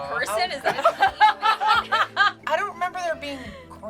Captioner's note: group laughs